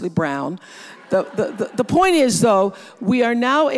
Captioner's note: audience laughs